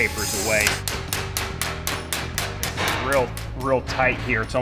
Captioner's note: hammer clanging